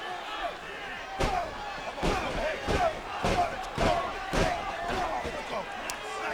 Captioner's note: blows thudding